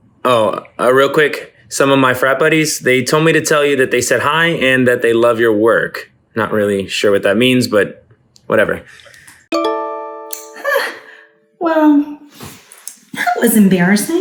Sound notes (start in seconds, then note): 9.3 computer dings